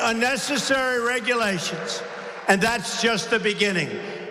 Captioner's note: applause